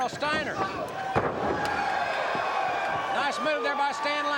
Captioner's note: body thudding